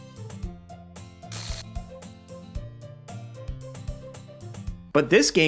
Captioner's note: light-hearted music; audio crackles